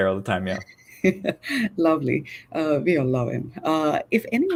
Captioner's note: chuckles